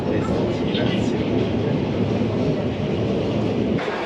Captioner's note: different Train Noises